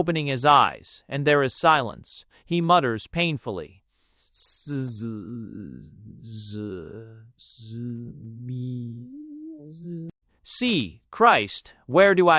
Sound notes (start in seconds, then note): 1.1 _In the strident tones of a circus barker. _; 4.6 _His voice weakening_